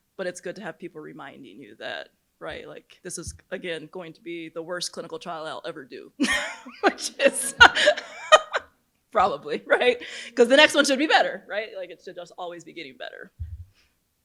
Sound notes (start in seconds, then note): 6.3 laughs